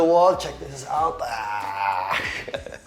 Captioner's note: grunts